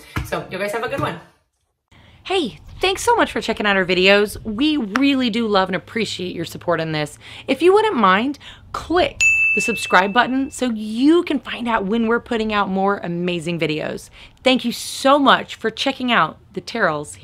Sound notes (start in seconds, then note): 9.2 bell ringing